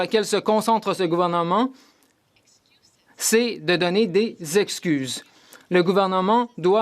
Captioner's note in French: voix de l'interprète